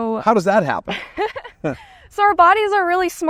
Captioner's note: laughs